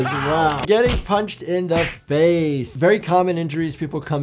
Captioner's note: fists smack jaws; fist smacks; soft upbeat music plays